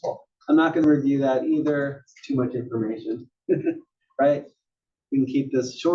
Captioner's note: laugh